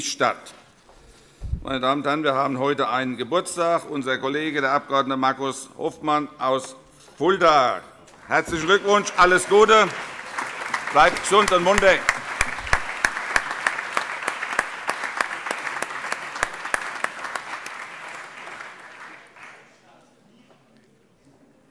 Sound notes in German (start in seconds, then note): 13.6 Beifall - Schriftführerin überreicht ein Weinpräsent